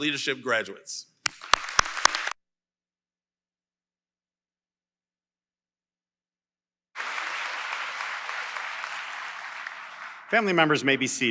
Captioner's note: applause